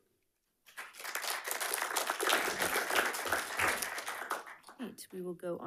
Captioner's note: attendees clapping